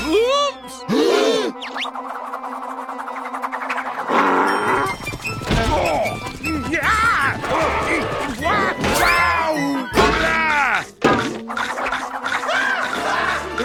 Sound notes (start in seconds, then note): 2.0 all gasping; 3.9 grunting; 12.4 screaming